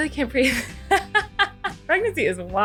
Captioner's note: laughs